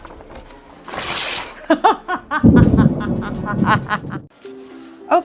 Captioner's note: wicked laughter